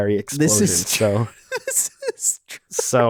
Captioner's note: laughs